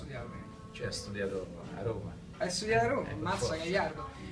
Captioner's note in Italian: accento romano